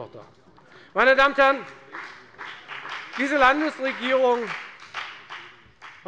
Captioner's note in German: Beifall bei der FDP